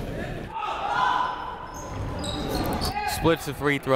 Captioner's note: people shouting in the crowd